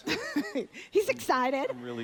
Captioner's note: laughs